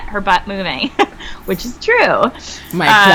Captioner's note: chuckles